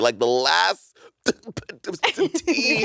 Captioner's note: Monét sputtering; chuckling